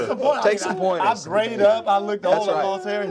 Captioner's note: all chatting